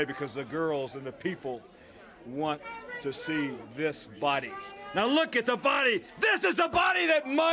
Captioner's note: crowd chatter